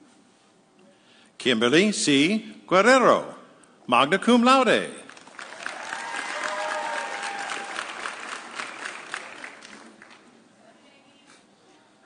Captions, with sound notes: Kimberly C. Guerrero, magna cum laude. (audience cheering)